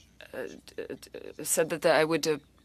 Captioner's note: speaking French